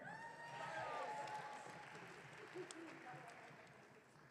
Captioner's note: audience cheering